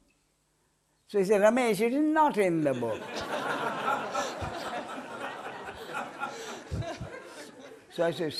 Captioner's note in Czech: smích